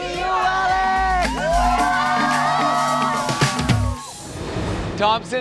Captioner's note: crowd cheering